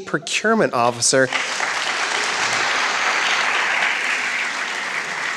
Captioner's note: crowd applauding